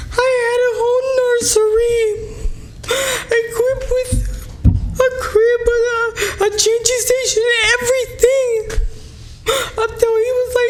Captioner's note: SPEAKING xDÑi EMOTIONALLY